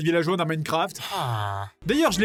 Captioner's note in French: Soupir de villageois de Minecraft